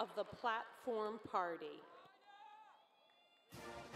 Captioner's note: cheers and applause